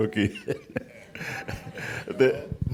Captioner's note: chuckling